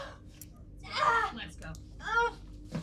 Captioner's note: Heather screaming; Heather yelling